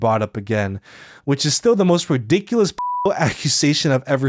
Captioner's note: beeps